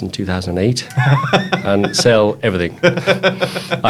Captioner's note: laughs